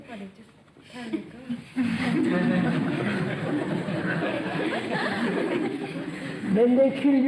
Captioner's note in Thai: หัวเราะ